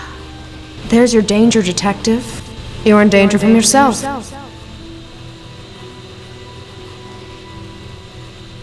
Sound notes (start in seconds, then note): 0.3 gasps; 0.8 echoes